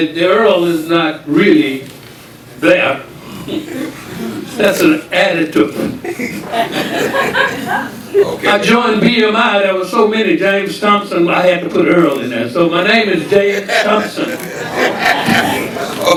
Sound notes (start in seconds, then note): 3.6 audience chuckling; 6.0 audience laughing; 13.2 audience laughing